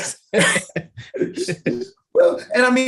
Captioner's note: laughter